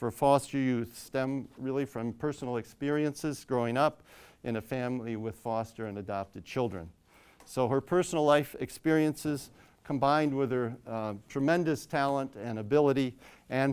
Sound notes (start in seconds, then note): none